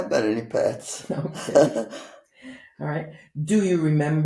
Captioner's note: laughing